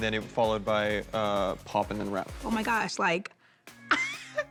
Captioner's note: laughs